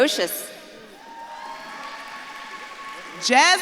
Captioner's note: audience claps and cheers